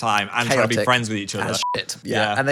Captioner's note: beep